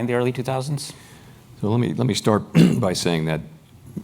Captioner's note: cough